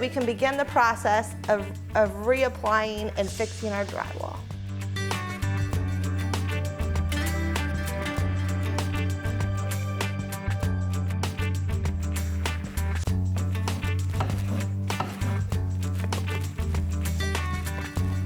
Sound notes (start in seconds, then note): 5.5 light contemporary music; 13.5 drywall knife scrapes